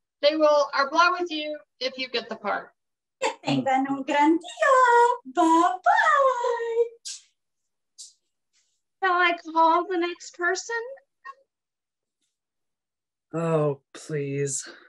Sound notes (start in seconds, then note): 0.7 speaks Spanish; 3.7 speaking Spanish